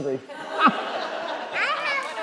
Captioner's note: crowd laughing